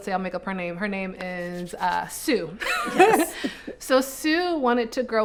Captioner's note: both laughing